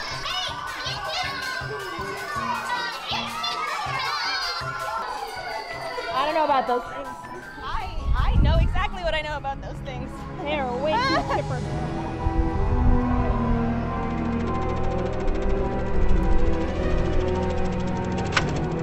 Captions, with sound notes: HEY! YOU'RE CUTE! I don't know about those things I know exactly what I know about those things *Panicked Laughter*